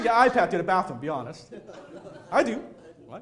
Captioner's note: audience laughing